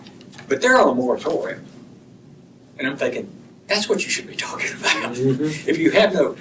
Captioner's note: laughter